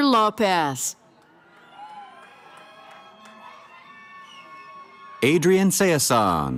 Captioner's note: cheering